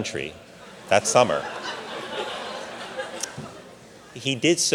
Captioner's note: audience laughing